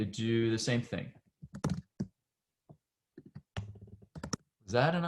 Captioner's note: typing